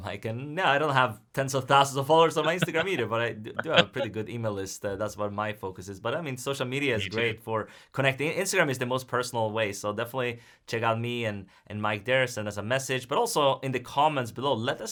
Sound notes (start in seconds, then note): 3.4 laughs